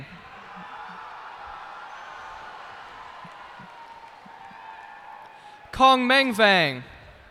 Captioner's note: cheers and applause